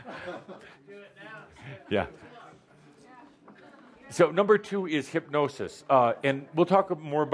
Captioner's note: laughter